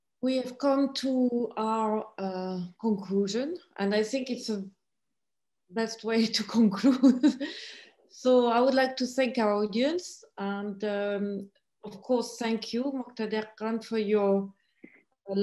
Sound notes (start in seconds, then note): 6.8 laughing